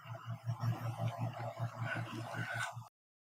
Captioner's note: eerie voice